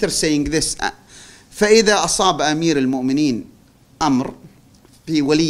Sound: non-english speech

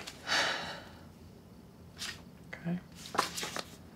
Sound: Sam sighs

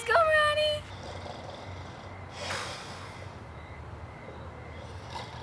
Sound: Donny snoring

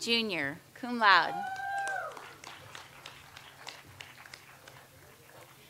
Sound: audience applauds

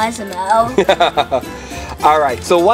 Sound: laughs

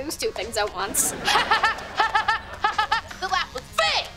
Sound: laughing

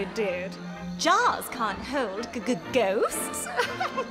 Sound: chuckling

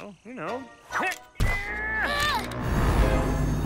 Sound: both straining

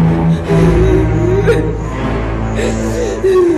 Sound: Lynette crying

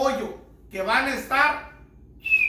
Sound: whistling

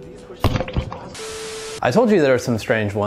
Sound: static buzzing

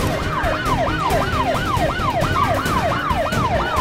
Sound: sirens wail

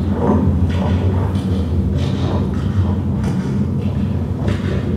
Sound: low rumbling

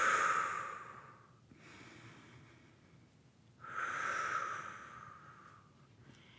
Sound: breathing

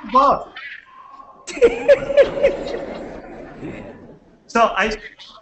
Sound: laughter

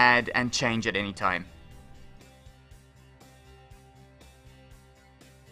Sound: pause

